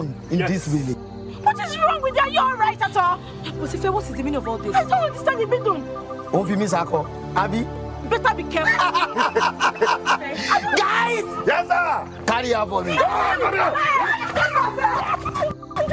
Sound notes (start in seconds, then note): 6.5 man speaking in foreign language; 8.5 men laughing; 13.6 all shouting; 15.7 man yelling in foreign language